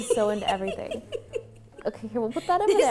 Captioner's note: laughing